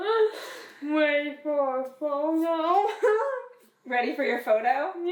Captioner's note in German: kichern; lacht